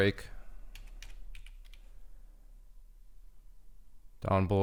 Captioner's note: keyboard clicking